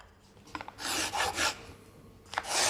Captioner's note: strong scraping noises